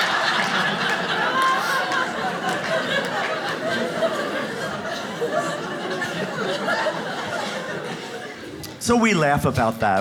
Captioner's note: audience laughs